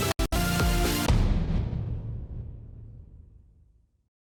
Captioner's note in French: Boum